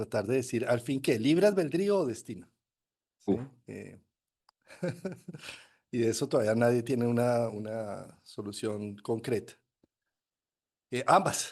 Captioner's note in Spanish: risas